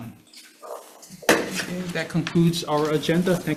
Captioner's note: object bangs